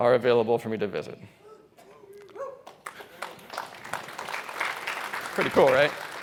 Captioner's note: applause